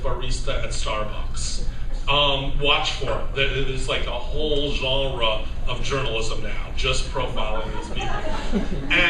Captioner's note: laughter